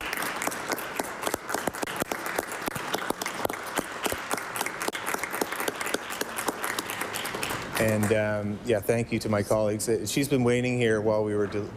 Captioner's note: applause